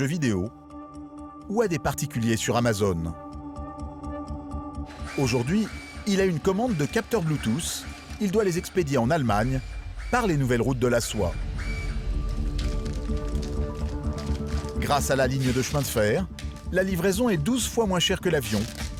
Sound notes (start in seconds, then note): 8.5 printer whirring; 8.5 soft intriguing music